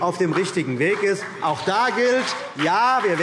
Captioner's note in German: Beifall